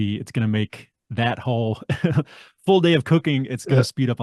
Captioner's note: laughs